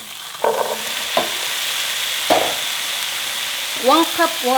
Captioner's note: pan sizzling